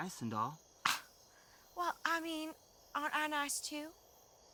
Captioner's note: scoffs